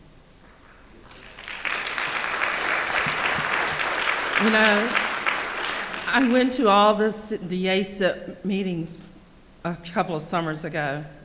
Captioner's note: applause